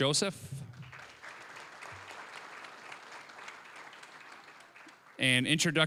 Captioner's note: applause